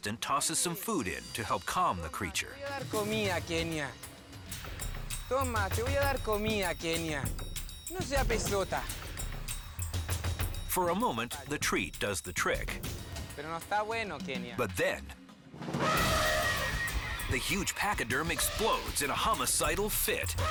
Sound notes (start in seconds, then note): 2.7 speaks in foreign language; 13.2 speaks in foreign language; 15.7 elephant trumpets